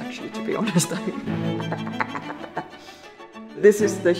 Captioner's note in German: imitiert die Musik: ta-ta-ta-ta